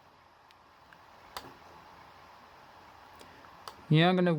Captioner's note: laptop dvd drive spinning